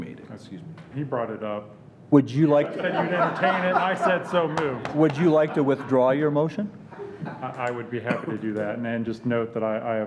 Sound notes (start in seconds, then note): 2.7 laughing